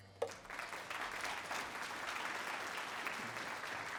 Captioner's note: applause